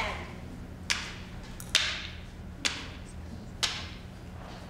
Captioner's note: crutch and cane clacking